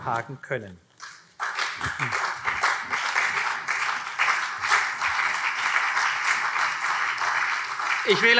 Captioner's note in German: Beifall CDU und SPD